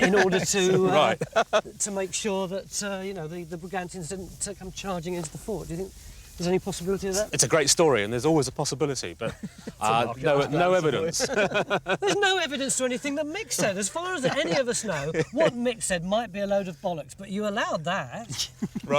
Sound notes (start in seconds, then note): 11.1 laughing